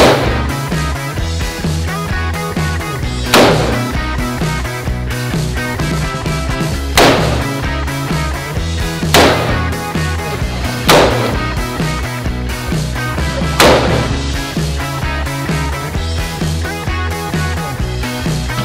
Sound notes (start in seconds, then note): 0.2 gun firing; 6.9 gun firing; 9.0 gun firing; 15.8 upbeat music